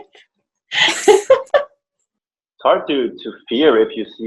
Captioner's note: chuckling